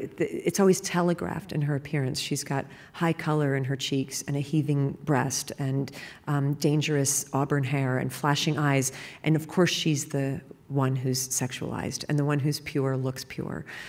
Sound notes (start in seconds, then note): none